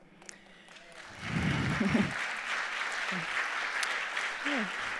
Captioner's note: audience applauding